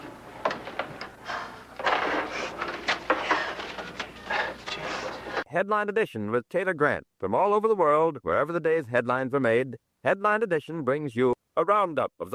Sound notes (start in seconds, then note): 1.6 actress sighs; 2.8 paper rustling